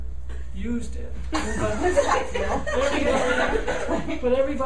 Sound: laughing

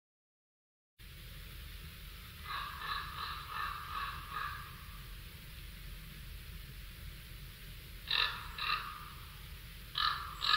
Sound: sound of birds

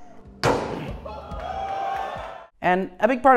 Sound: anvil clangs; crowd cheers

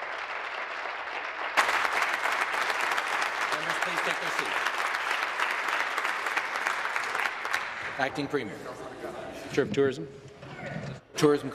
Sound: applause

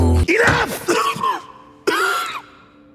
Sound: cough

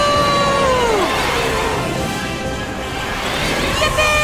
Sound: engine roars

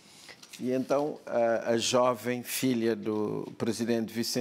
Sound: speaking portuguese

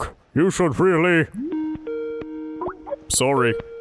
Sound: Skype call

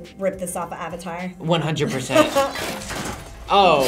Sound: laughs

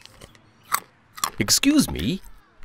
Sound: chewing

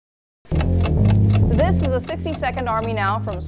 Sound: bass guitar playing; clock ticking

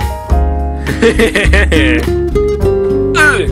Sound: laughs

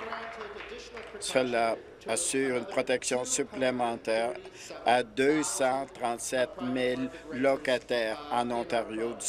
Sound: applause

